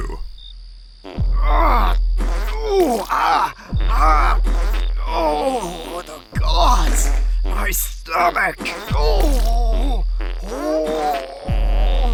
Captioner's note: more farts